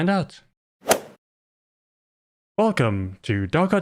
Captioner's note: golf ball hit sound